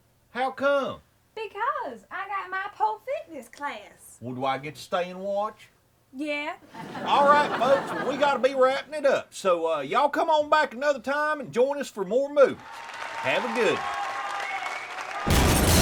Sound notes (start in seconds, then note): 6.7 audience laughs; 12.5 audience cheers